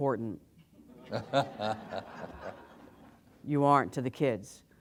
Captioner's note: laughter